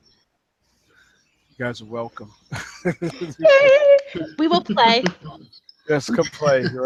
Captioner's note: cheers